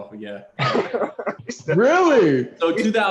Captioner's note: laughter